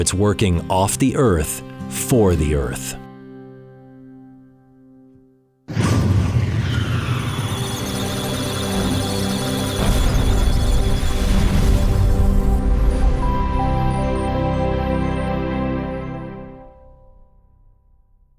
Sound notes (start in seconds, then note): 7.3 electronic Sounds of Data; 7.4 musical Tones